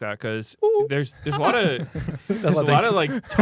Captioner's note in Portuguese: risos